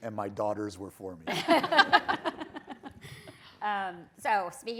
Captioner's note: people laughing